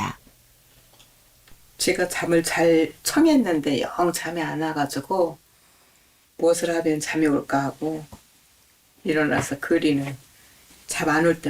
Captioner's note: voiceover